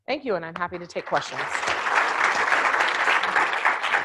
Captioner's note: applause